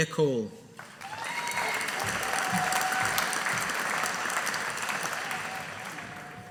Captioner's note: audience applauding